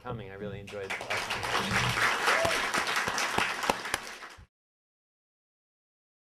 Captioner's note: audience applauding